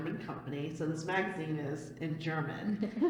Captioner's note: laughter